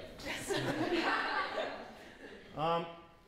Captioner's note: laughter